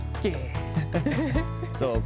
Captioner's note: both laugh